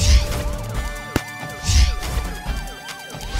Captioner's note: Stops car